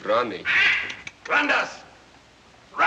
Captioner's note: squawks